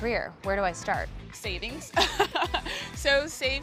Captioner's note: laughs